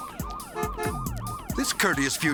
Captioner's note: car honking